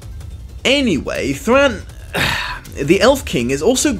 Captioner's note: whispers; sighs irritably